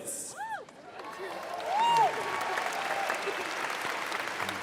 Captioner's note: applause